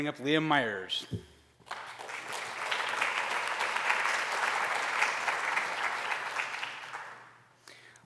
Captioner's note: applause